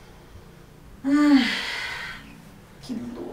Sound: sighs deeply

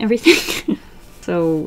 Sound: laughs

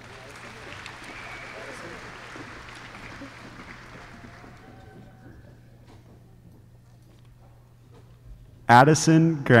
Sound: applause

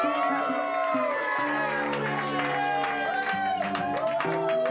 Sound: cheers and applause

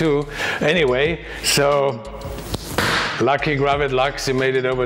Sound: slaps table

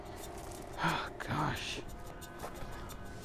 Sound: sighs

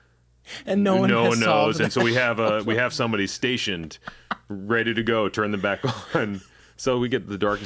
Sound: chuckle

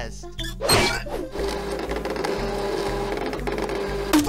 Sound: fax machine sounds

